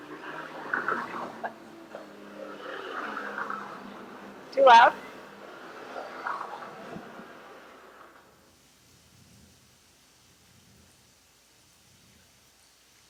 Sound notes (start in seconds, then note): 8.0 distant thunder; 9.5 rain drops